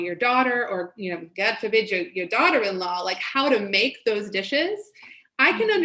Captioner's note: in Brooklyn accent; in normal voice